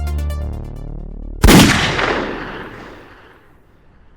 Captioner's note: gun firing